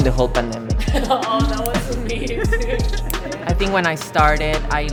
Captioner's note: laughing